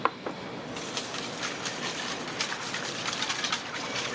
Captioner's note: whisk stirs